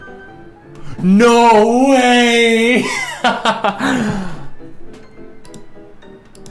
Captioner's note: laughs